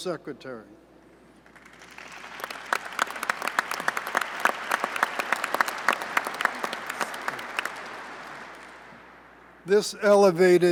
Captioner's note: applause